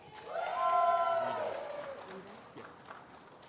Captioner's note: applause